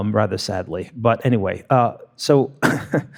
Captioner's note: laughs